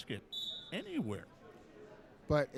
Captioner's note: referee whistling